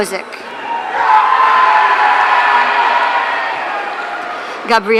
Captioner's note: audience cheering